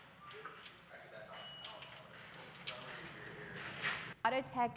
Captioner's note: person rattling chain